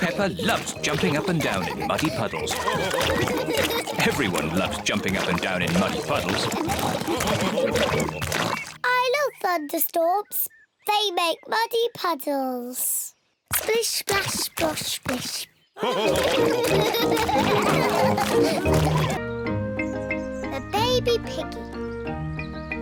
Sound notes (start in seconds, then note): 2.7 all laugh; 8.2 oinks; 15.8 all laughing